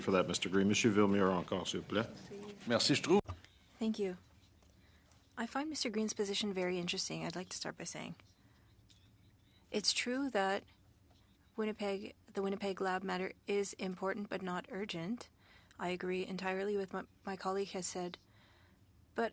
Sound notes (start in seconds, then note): 7.8 speaking French